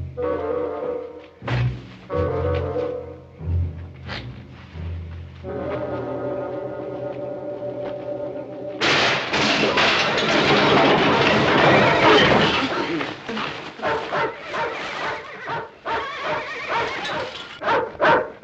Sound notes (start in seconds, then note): 8.8 clattering loudly; 13.7 dogs barking, horses whinnying